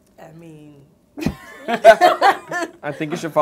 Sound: laughter

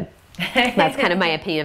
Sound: laughter

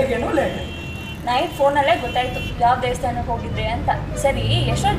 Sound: sarcastic

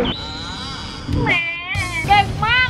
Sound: baby crying

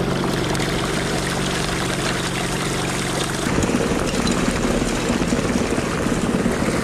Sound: water bubbling; machines roaring

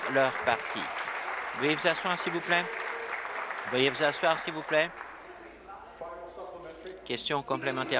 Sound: applause

